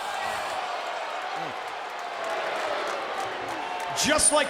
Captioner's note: crowd boos